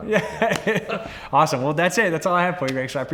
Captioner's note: laughs